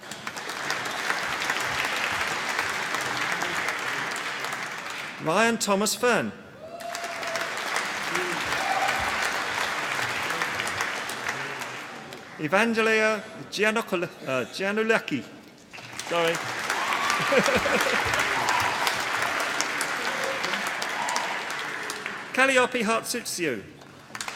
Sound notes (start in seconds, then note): 0.0 applause; 6.7 applause; 15.6 applause; 17.1 laughter; 23.8 applause